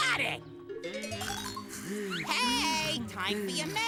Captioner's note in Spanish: roncando